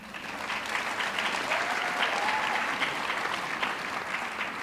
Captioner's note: audience clapping